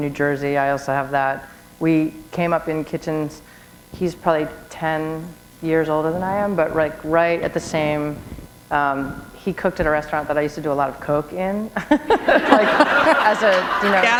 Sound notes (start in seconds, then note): 11.7 laughter